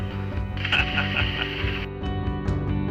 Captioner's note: laughter